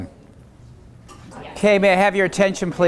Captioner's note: talking amongst each other